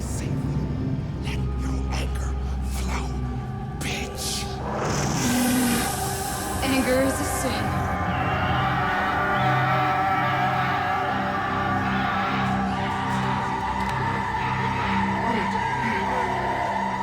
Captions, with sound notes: I say let your anger flow. Bitch. (snarls) - Anger is a sin. (music swells and intensifies)